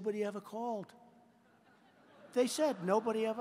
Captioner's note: laughter